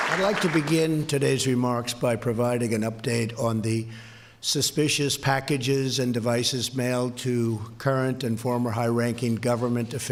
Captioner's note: applause